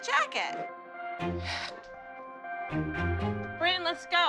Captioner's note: sighs